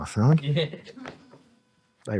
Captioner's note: audience laughing